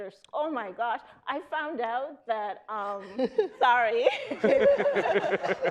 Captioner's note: panelists laughing